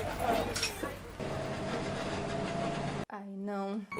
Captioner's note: the bus closes the doors and leaves